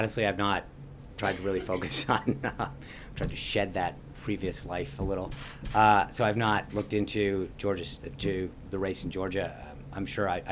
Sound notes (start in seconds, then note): 1.2 laughter